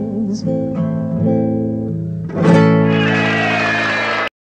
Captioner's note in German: Beifall